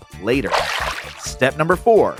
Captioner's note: water splashes